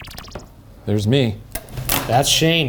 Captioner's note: digital pulsing; scissors clattering